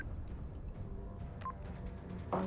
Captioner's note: beep-beep